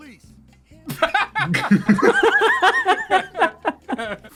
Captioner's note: several people erupting in laughter